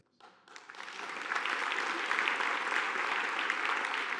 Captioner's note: audience applauding